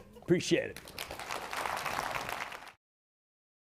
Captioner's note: audience applauding